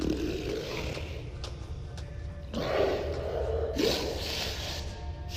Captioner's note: creature snarling; creature sniffing